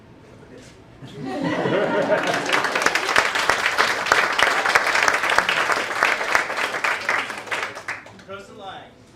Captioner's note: laughter and applause